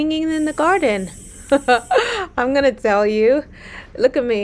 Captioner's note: chuckles